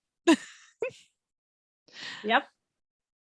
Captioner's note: laughs